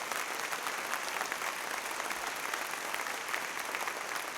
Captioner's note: applause